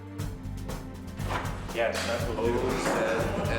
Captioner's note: chatter